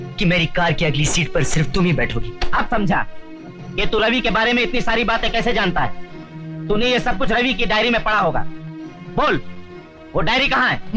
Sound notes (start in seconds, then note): none